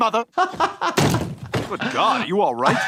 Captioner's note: laughing